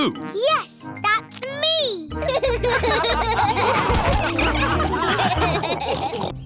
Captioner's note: all laughing